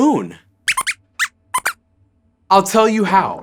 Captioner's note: squeaks squeaks